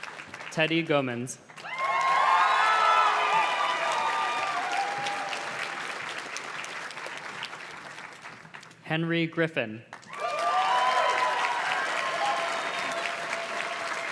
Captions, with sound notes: Teddy Gomenz. (audience cheers and claps) Henry Griffin. (audience cheers and claps)